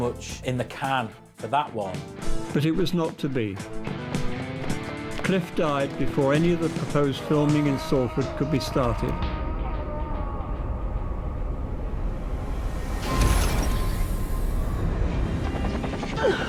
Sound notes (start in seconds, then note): 8.7 screaming; 12.9 metallic shattering